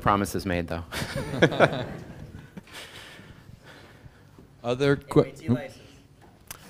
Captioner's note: laugh